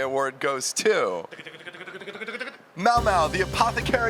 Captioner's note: is mimicking drum roll sounds